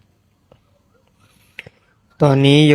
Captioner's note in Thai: เสียงสูดหายใจ